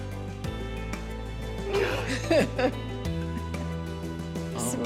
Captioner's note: laughs